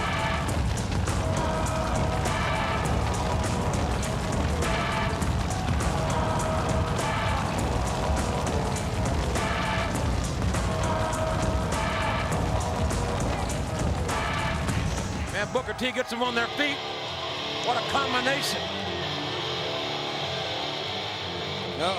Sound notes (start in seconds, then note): 0.1 fire roaring continues; 0.1 upbeat music continues; 7.2 fire roaring continues; 7.2 upbeat music continues; 19.3 upbeat rock music